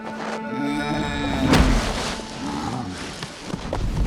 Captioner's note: moaning